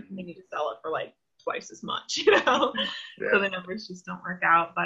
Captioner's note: laughs